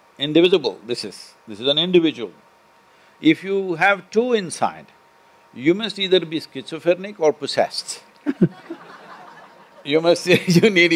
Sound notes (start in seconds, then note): 8.2 laughter